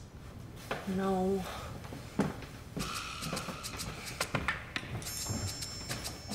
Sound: heavy footsteps retreating

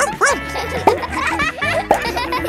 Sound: barks

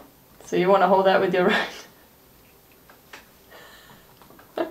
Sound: laughs

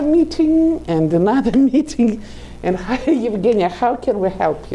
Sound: laughing

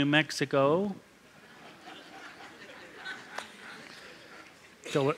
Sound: laughter

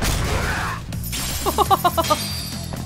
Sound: chuckles

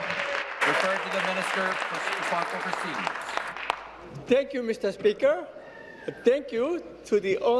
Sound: applause

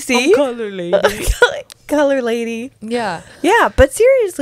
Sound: laughs

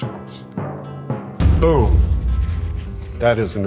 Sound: drums pounding; explosion booming

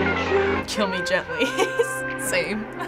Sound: laughing

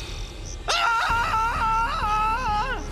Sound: screaming

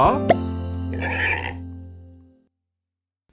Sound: oinking

